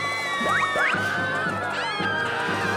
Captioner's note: boy screaming; both screaming